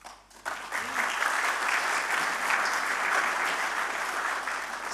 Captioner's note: audience applauding